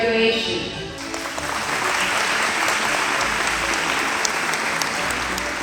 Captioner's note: audience applauding